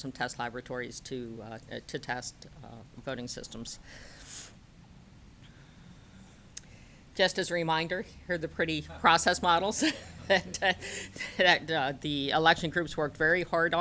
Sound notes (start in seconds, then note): 11.3 laughter